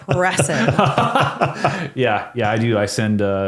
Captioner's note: laughing